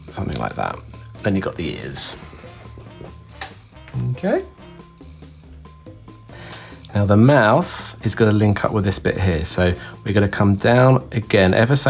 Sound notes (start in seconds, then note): 2.7 pens scratching